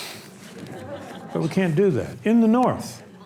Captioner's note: audience laughs